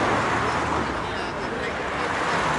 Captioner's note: indistinct chatter